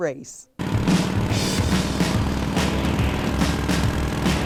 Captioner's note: motorcycle revving